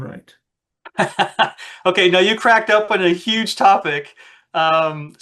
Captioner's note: laughs